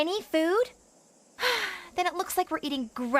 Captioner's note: Courtney Sighs